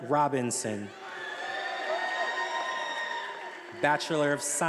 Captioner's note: attendees applauding and cheering